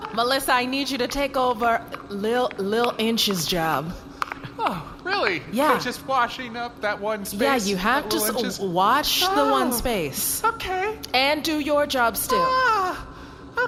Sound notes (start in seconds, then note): 9.4 makes nervous noises